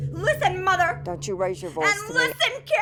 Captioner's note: mother over phone